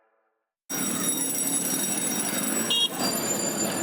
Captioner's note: street hubbub